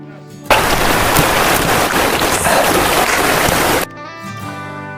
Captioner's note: water roaring